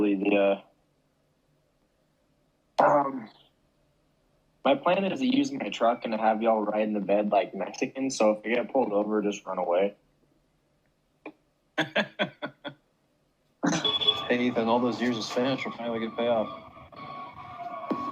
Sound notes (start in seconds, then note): 14.5 laughter